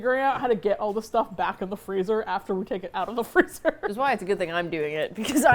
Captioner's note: laughs